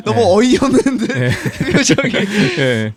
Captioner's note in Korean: 웃음